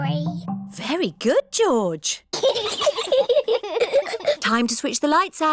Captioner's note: both giggle